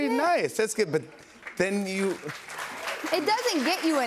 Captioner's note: applause